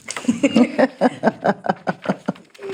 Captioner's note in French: rires